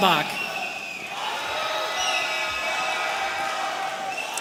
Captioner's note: audience cheering